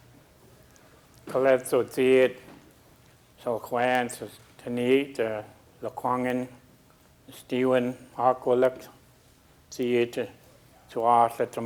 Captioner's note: speaking a local Indigenous language